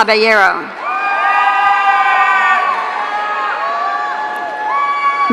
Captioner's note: audience cheering